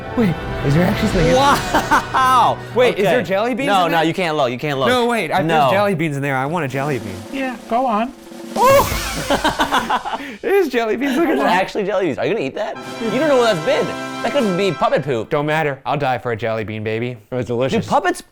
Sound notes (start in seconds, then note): 8.2 dramatic percussive music; 8.6 laughing